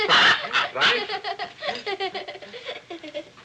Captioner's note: squawking; giggles